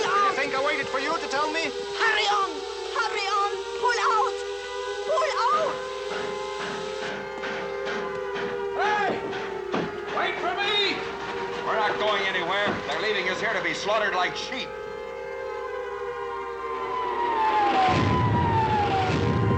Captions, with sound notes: YOU THINK I WAITED FOR YOU TO TELL ME? HURRY ON! HURRY ON! PULL OUT! PULL OUT! HEY, WAIT FOR ME! WE'RE NOT GOING ANYWHERE. THEY'RE LEAVING US HERE TO BE SLAUGHTERED! [ Sirens Continue ]